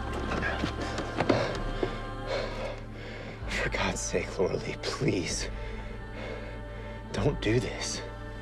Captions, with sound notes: (Coach panting) - For God's sake, Laura Lee, please. Don't do this.